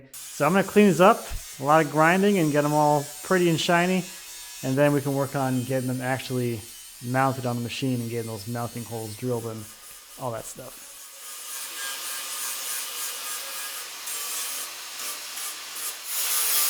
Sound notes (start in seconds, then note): 11.6 sander buzzing